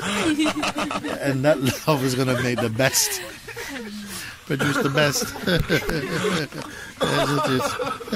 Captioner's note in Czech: smích